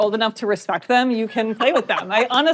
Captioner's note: laughs